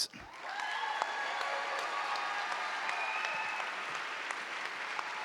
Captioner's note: audience cheering